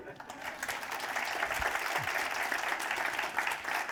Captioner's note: applause